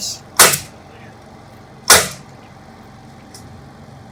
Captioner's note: nail gun firing